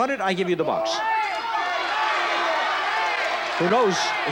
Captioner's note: audience yells